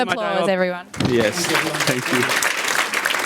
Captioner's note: audience claps